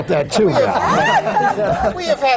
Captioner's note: laughter